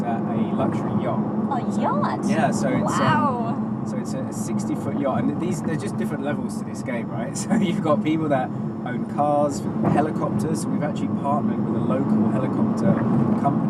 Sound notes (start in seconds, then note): 7.4 laughs